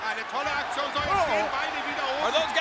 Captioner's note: speaking German